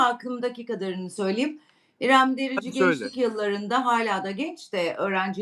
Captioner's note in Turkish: boğazını temizler